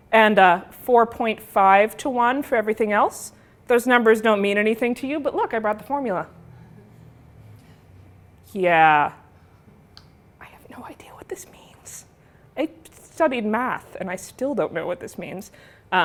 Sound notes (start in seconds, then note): 8.8 whispered